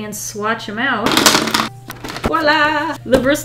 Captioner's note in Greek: Είδη ζωγραφικής χτυπάνε στο γραφείο